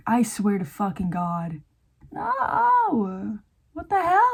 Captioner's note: squealing